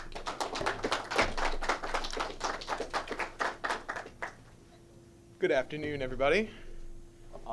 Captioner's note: clapping